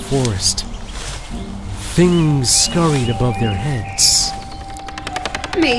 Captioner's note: jungle sounds